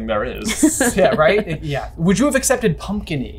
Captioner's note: laughs